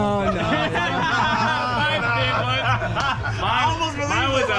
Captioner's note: laugh; laughs